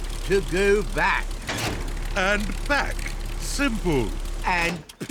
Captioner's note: lever clunks